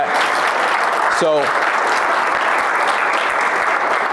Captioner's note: applauds